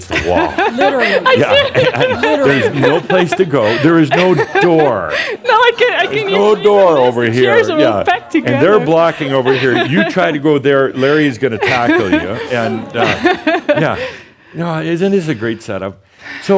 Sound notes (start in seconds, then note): 2.4 laughing; 6.3 still laughing; 11.5 she’s still laughing